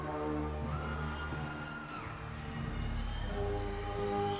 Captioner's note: crowd cheering